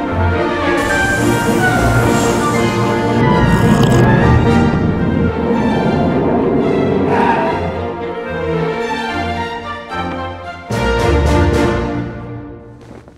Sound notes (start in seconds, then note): 0.3 inspiring orchestral music; 0.7 airplane engine revving; 3.4 plane wheels screeches; 3.4 slurps water